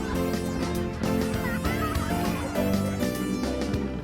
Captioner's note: children playing